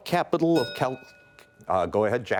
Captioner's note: bell rings